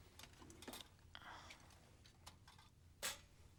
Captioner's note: whispering